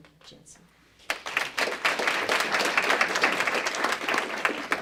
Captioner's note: applause